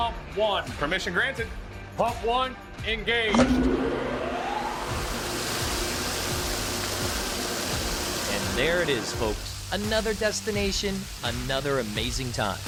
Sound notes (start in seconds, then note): 3.3 pump running; 3.3 water rising